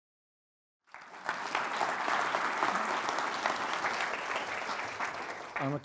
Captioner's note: audience applauds